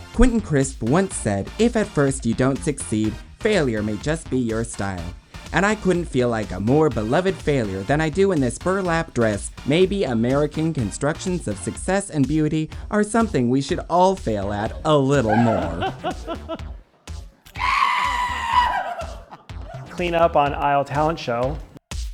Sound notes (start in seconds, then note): 15.9 judges laughing; 17.4 screams